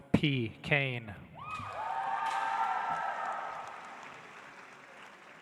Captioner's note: audience applauds